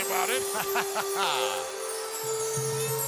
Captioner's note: man laughs; somber music